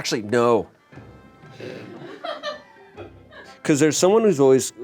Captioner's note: crew laughs